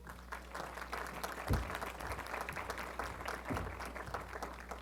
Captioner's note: applause